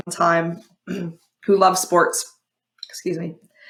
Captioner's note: clears throat